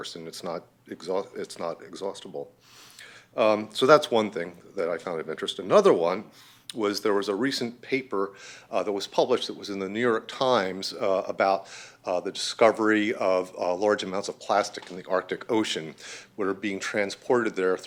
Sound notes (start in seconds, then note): none